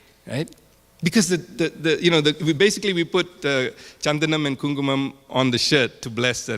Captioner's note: speaking in foreign language